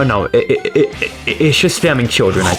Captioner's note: stutter Moment